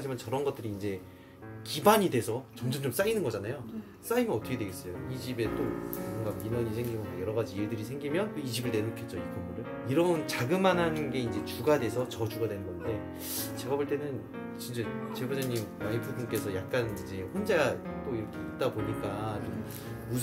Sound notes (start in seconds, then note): none